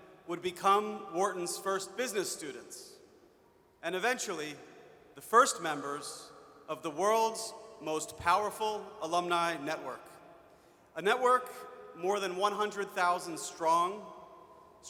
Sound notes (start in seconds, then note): none